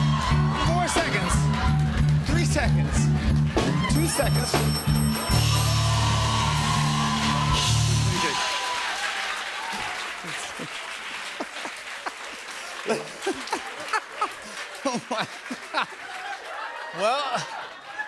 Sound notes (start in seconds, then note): 4.3 ding!; 5.1 cheers and applause; 10.6 laughs; 15.7 laughter